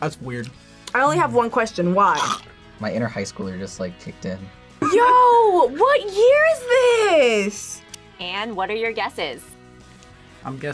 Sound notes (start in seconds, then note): 2.5 gags